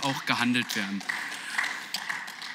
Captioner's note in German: Beifall